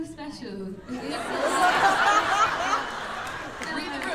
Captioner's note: laughter